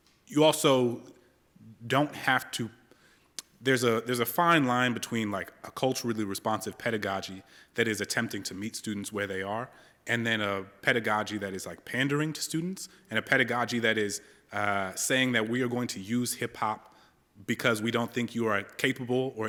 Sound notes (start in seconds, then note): none